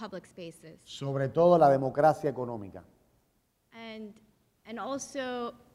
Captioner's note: speaking in Spanish